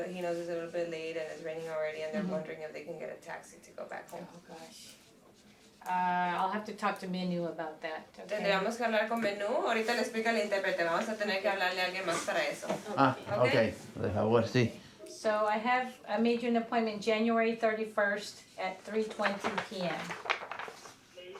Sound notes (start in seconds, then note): 9.9 Spanish